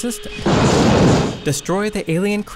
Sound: fire blaring

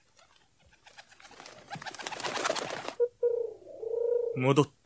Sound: SFX: wings fluttering followed by cooing

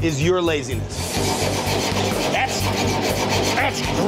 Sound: loud metal scrubbing

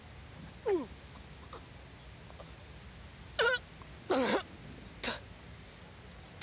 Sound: vomiting

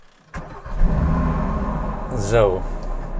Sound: sound starting car

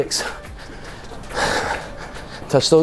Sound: exhales deeply

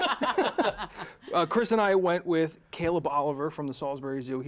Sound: laughter

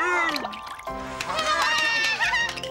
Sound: water splashes; all cheering and applauding

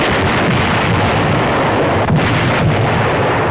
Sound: explosions

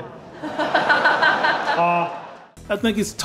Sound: laughter

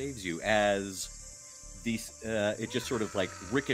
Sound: goblin cries

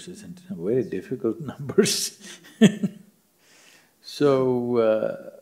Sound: laughs

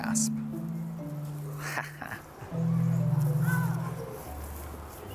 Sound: chuckles

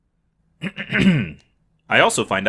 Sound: throat clearing

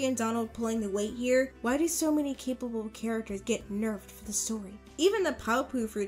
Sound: whispering

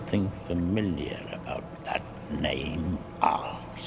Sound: none

